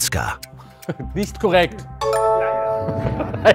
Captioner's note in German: Klingeln